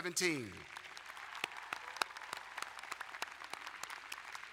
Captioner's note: applauding